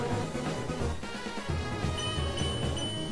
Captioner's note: none